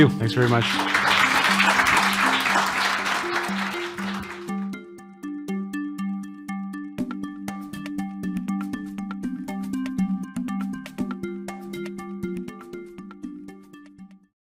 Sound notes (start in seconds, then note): 0.4 audience applauds; 3.5 upbeat music